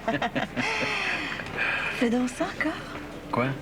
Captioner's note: Rires